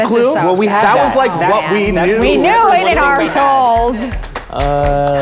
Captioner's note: murmurs